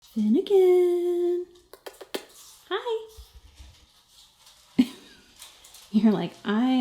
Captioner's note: makes kissy noises